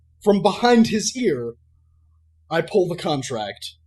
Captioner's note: none